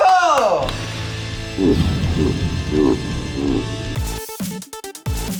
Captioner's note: demonic laugh; upbeat music